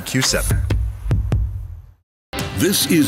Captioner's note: heart beating